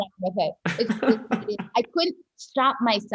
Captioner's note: laughs